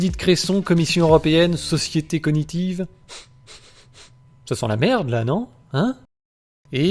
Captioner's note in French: Reniflement